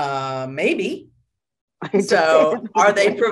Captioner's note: laughter